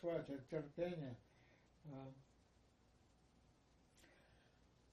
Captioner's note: pause 7 seconds